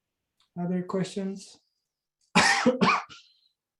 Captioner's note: coughs